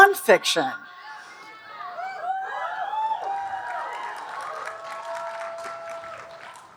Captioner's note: audience cheering and applauding